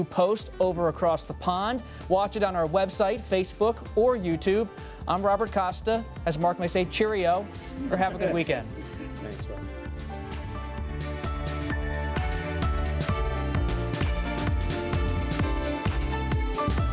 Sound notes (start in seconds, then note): 10.6 laughter